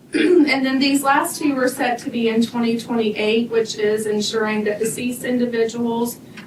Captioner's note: clears throat